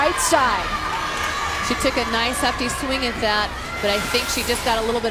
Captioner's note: voiceover